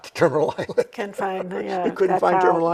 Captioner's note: chuckles